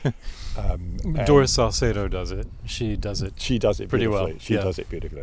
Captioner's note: laughs